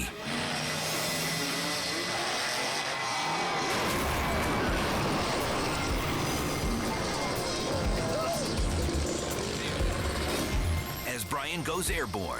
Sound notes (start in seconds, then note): 0.3 engine revving; 3.6 bike crashing